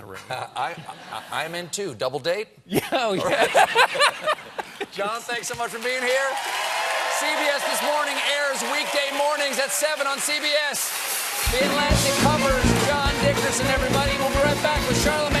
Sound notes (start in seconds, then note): 2.7 laughter